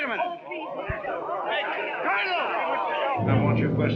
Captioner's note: chattering